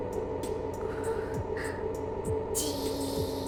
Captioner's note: breath